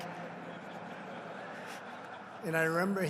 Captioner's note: laughter